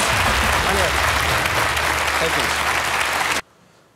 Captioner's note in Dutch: applaus